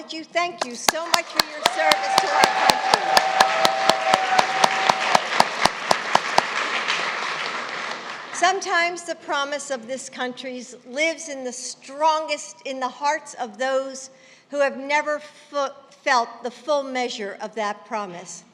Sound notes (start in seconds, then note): 5.7 applause